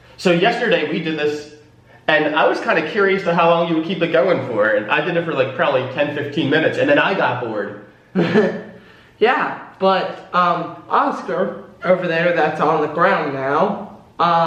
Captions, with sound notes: So yesterday we did this, and I was kind of curious to how long you would keep it going for, and I did it for like probably 10- 15 minutes, and then I got bored. - (chuckles) Yeah, but Oscar over there, that's on the ground now,